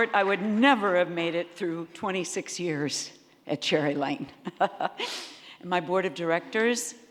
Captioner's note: laughs